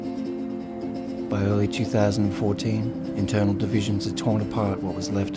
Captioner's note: voiceover